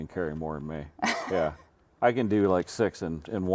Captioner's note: chuckling